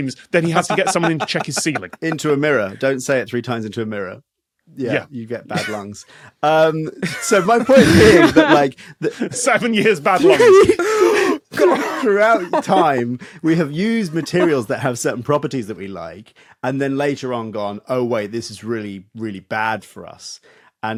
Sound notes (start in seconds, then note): 7.0 others laughing; 10.0 sob